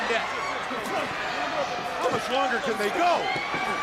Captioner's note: crowd chatter